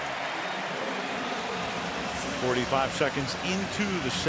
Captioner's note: applause